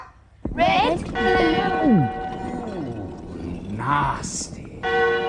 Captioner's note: Red, blue *swallow sound